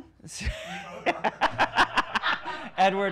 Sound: laughing

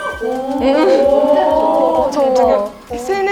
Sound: claps

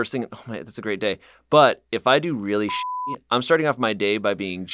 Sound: beep

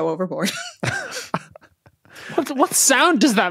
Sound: snicker

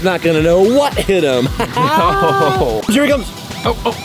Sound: laughing

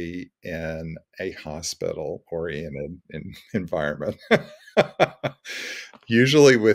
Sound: laughs

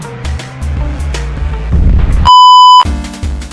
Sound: explosion and beep

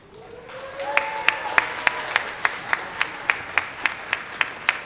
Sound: audience cheers

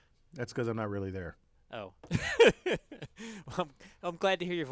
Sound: laugh

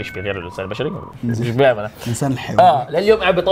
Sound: chuckles

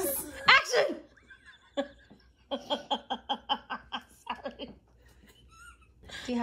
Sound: laughter

